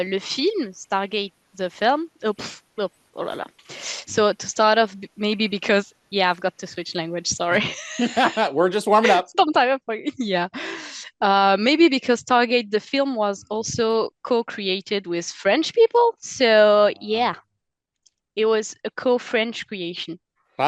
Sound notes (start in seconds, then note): 9.9 translating from French